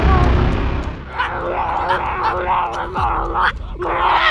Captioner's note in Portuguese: gritos